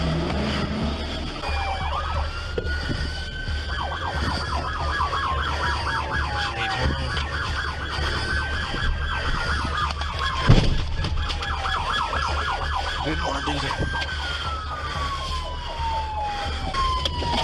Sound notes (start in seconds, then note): 1.9 police sirens blaring